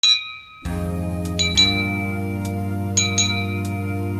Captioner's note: bell dinging